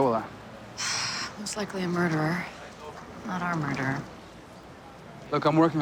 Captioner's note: sighs